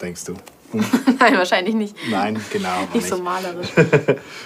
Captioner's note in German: lacht